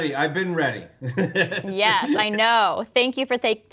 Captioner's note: laughs